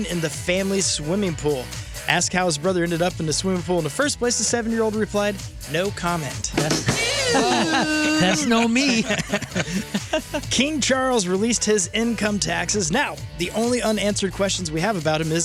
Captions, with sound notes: in the family's swimming pool. Ask how his brother ended up in the swimming pool in the first place the seven-year-old replied, no comment. Ew. [LAUGHTER] That's no me. King Charles released his income taxes. Now, the only unanswered questions we have about him